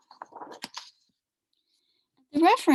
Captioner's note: papers rumbling